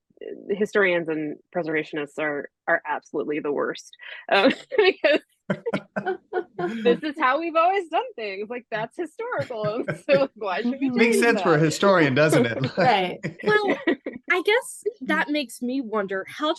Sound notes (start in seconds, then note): 3.8 laughs